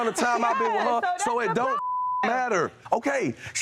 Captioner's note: beep